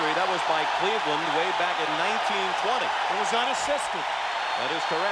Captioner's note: applause